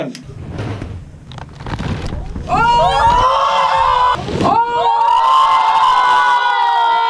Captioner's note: Devil's Toothpaste explodes; people shouting